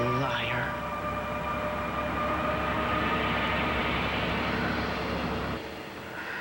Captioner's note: radio turns off